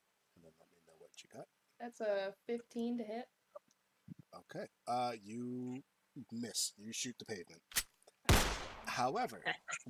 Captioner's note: pistol Shot